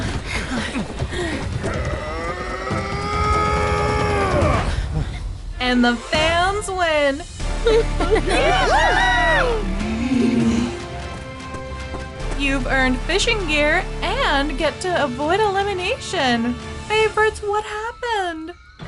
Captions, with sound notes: [Manu grunts] And the Fans win! [cheering] You've earned fishing gear and get to avoid elimination. Favorites, what happened?